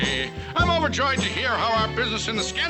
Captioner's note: in normal voice